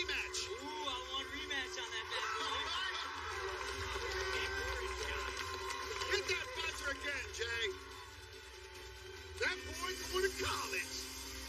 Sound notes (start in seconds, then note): 1.9 laughter; 3.5 cheers and applause